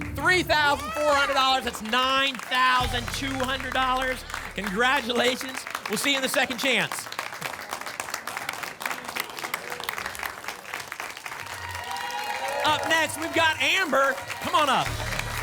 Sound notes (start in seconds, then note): 7.8 applause and cheering